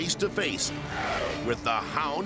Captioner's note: dog growls